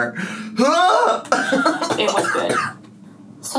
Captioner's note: gags